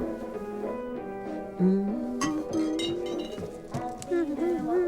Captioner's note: humming along